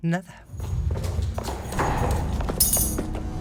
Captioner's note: ominous music; feet thudding; metal clanks